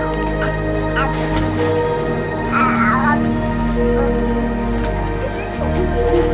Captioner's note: soft orchestral music; child babbling